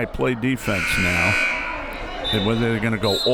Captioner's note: buzzer; whistle